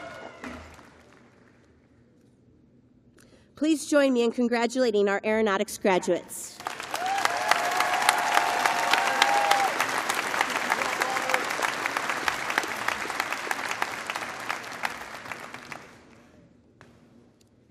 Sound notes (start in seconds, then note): 2.3 applause